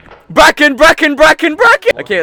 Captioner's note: cries over the Walkie